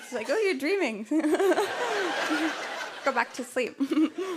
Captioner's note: laughter